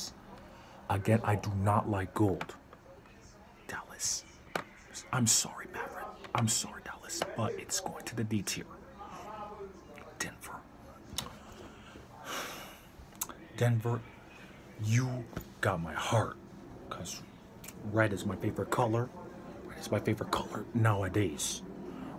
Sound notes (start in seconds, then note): 12.2 sighs